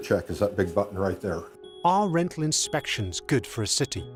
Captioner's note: alarm beeping